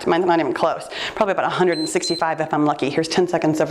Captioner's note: timer beeps